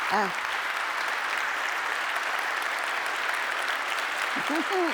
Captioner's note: applause